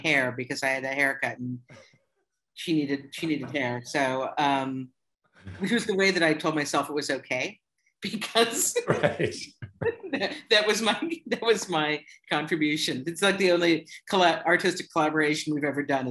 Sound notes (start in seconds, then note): 8.8 laughter